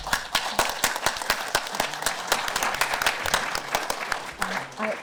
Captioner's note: audience applause